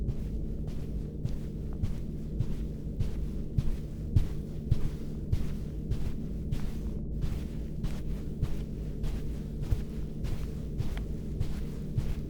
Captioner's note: Distant humming of the ship's ventilation. Felix's footsteps are heard